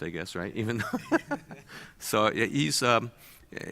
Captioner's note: laughs